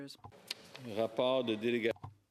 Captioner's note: speaking French